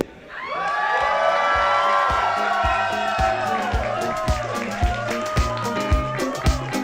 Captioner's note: cheering